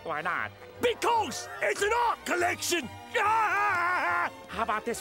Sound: laughing

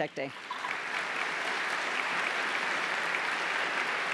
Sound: applause

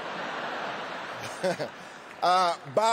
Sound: laughter

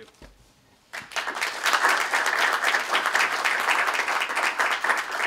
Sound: applause

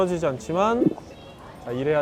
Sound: gulp

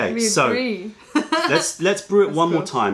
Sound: laughter

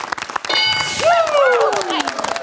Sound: bell dings; cheering/applause

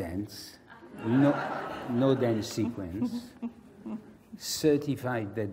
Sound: laugh

